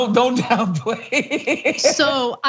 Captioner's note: laugh